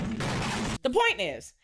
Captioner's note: gunshots